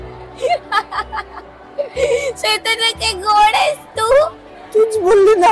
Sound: aarohi laughs

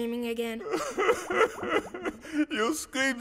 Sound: sobbing

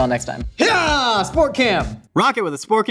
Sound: exclaims

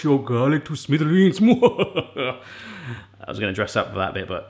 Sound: evil laughing

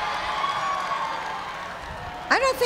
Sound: cheers and applause

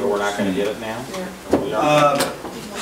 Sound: overlapping chattering

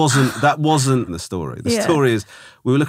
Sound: laughing

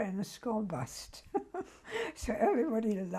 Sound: laughs

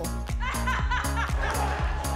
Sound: laughs

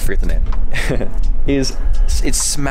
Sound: laughing

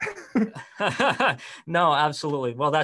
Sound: laughs loudly

